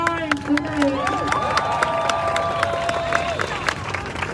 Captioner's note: crowd cheering